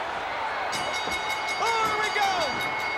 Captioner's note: bell dinging